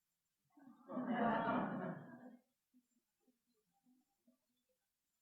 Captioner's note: audience laughing